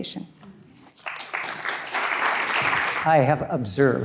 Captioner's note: audience clapping